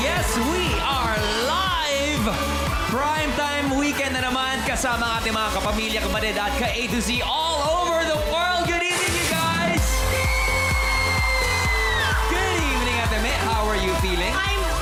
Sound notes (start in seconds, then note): 10.1 melai shrieks; 10.5 audience cheering